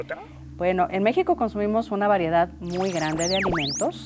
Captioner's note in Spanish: none